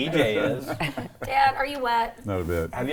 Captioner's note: laughs